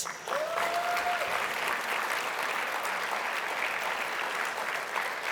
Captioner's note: audience applauding